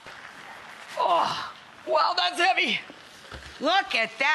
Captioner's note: grunts